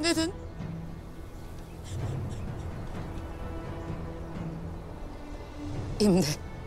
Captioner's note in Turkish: Ağlama sesleri